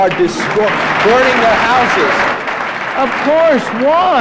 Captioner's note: audience applauds